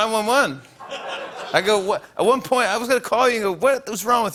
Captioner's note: laughter